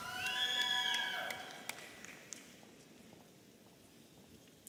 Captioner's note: audience cheering